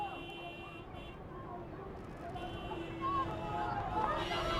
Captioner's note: horns honking, people shouting